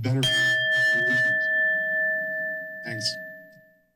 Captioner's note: bell rings